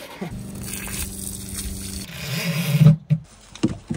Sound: water splashing

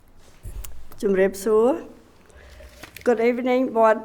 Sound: speaking foreign language

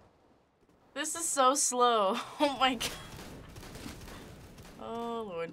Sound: faint gunfire

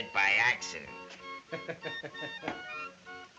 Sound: laughs

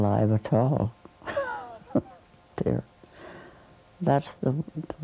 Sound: laughs

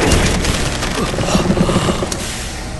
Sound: machine powers up; Cris gasps

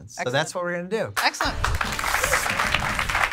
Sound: audience applauds

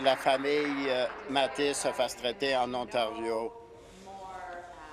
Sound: applause

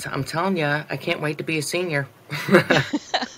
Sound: laughter

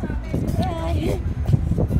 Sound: voice suddenly cracks

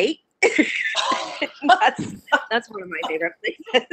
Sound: laughing

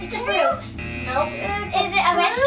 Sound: buzzer

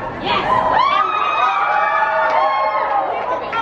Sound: crowd cheering

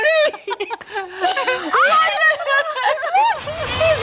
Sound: laughter

